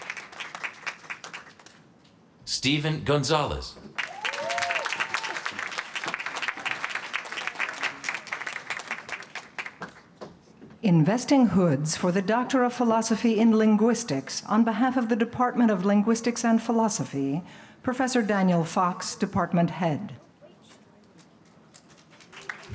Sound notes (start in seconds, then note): 3.9 applause